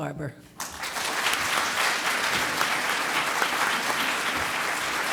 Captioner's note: audience applauds